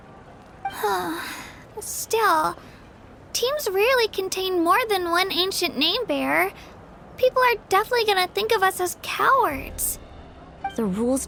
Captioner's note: sigh